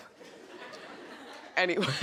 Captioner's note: audience chuckles